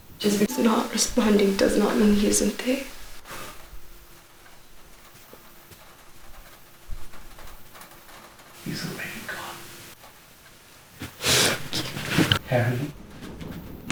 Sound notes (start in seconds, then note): 11.1 Carrie inhales, sniffs